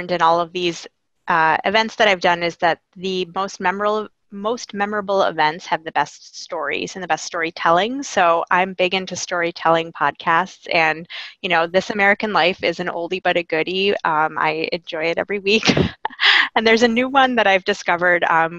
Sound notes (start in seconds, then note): 15.3 laughing